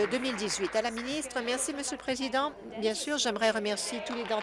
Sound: applause

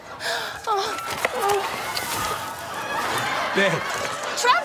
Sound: moaning

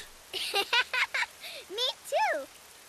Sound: laughing

